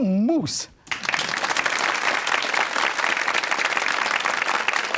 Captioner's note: crowd applauds